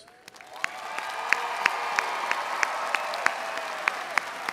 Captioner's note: audience cheering